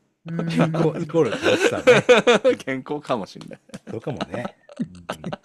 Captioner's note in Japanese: 笑い